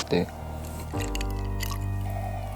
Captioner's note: sip